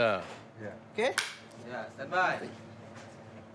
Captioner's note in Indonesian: clap